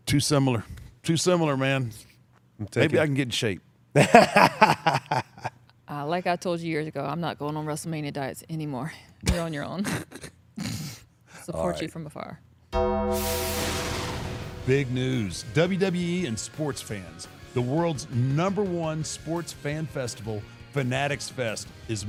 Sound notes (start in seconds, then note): 3.9 Gunther laughs; 12.7 ominous music